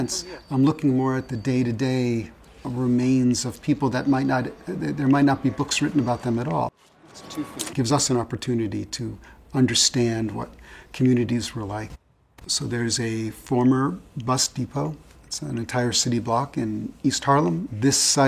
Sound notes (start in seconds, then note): 4.5 car and street noises